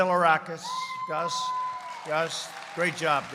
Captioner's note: applause